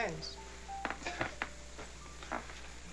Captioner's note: chuckles